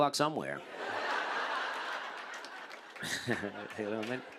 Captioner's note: laughter